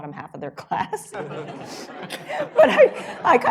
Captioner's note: laughter